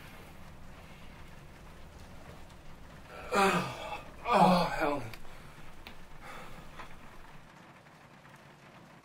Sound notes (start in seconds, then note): 3.1 Nathan moaning